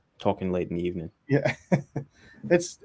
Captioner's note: chuckles